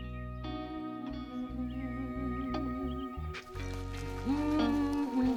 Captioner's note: Beverly humming happily